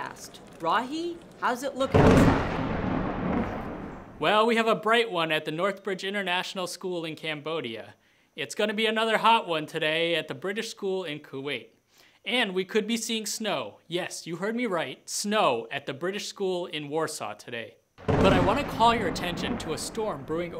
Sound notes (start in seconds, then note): 1.8 thunder